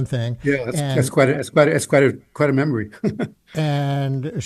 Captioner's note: chuckles